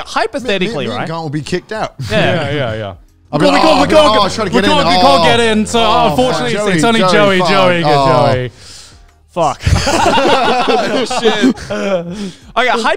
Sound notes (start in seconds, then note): 3.4 group chattering; 9.6 all laughing